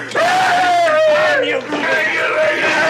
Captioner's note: Barney wailing